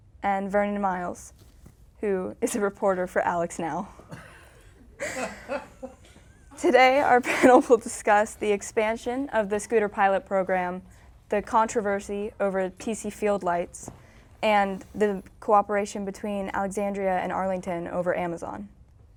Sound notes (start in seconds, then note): 5.0 laughing